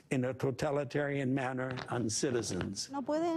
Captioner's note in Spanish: habla en ingés